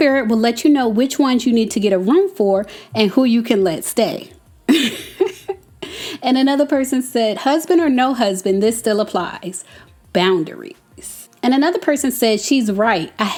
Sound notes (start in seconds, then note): 4.6 laughing